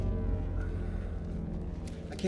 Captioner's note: softly groans